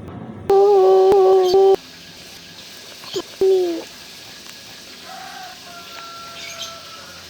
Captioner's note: sob